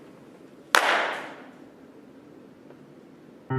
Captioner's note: claps hands